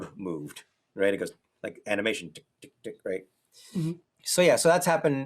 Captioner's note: makes ticking sound